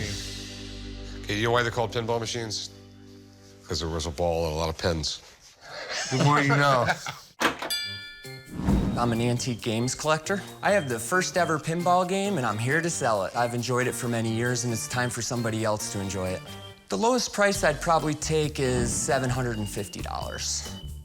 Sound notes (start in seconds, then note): 5.6 laughter; 7.6 bell dings